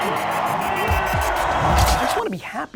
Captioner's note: audience cheers